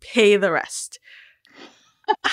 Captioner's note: laughter